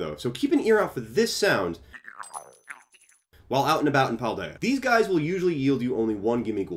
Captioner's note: Gimmighoul cry